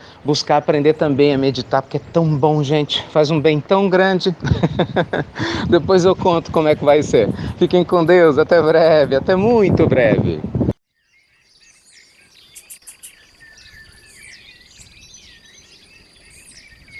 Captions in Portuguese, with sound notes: aprender também a meditar, porque é muito bom, gente! Faz um bem tão grande! (Risos) Depois eu conto como vai ser. Fiquem com Deus! Até breve, até muito breve!